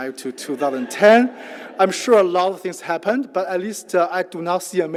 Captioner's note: laugh